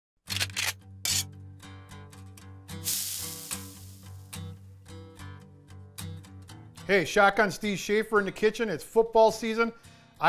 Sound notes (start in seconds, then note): 0.3 shotgun cocking; 2.8 sizzling